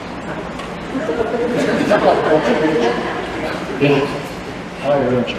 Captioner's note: laughter